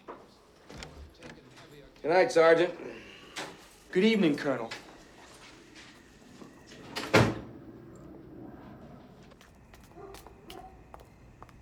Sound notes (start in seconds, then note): 6.6 door closing; 9.4 insects chirping